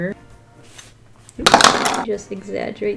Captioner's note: pencil extender crashes on desk